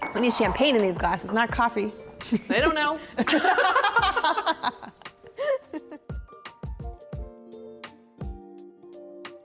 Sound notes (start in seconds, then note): 3.2 both laughing; 5.5 lively music